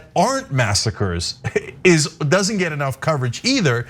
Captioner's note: laugh